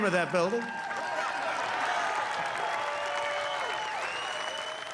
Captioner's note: cheering and applause